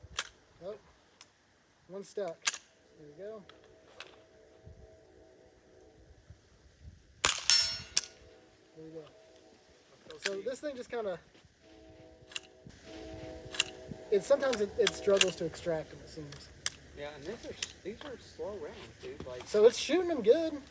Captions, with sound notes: Nope. One stuck. There we go. [gunshot] There we go. So this thing just kind of... Sometimes it struggles to extract them, it seems. Yeah, and these are slow round, dude. So it's shooting them good.